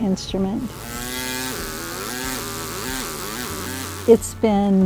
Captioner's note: air hammer